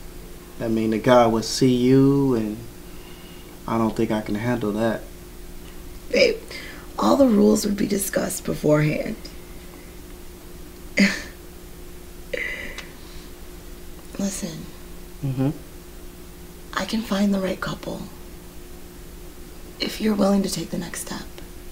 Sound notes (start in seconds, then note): 12.3 sighs